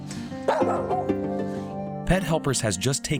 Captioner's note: dog barking